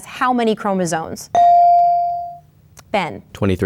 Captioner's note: bell dings